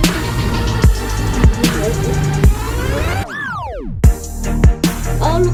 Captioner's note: humming